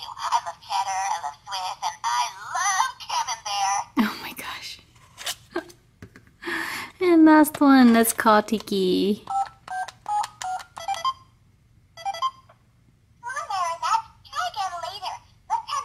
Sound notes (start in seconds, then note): 4.4 voiceover; 5.5 voiceover laughs; 9.2 beeping